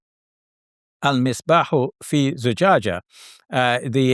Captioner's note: speaks in Arabic